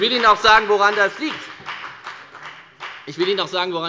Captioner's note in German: Beifall bei der FDP